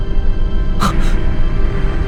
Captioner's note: gasp